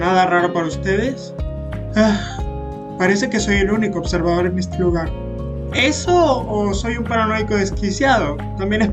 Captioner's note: sigh